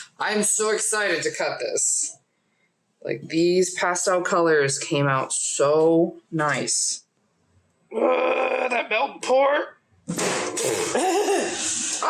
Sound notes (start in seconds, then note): 8.0 growl